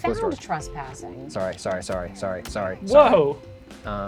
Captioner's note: pat